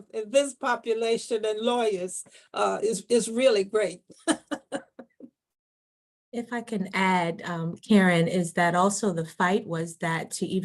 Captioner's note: chuckles